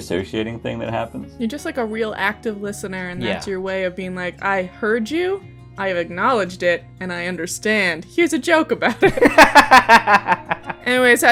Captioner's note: laughter